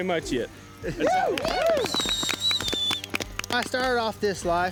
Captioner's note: cheering, applause